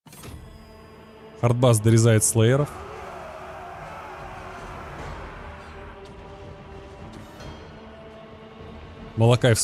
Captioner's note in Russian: ликование